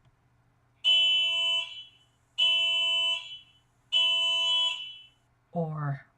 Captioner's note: car alarm sound effect